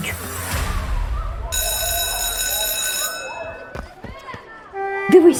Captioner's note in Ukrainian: дзвінок